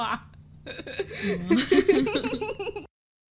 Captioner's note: giggling